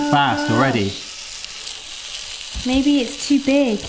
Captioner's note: pancake sizzles